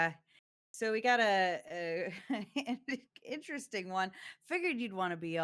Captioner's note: chuckles